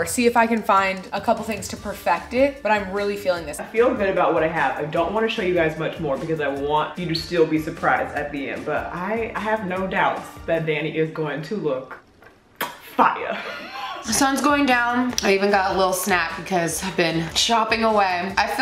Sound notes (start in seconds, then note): 12.6 kiss; 13.2 laughs